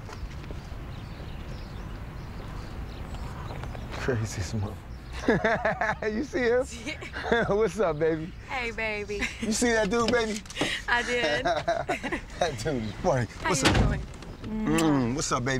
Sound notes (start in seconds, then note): 5.1 laughing lightly; 10.5 laughing lightly